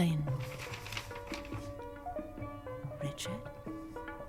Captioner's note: paper rustles